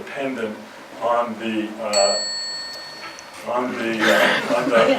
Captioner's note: bell chime